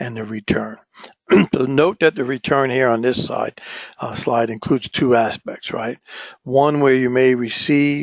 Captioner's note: cough